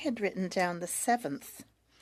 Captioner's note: speaking French